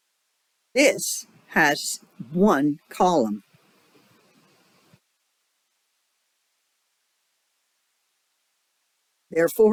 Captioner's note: 5-second silence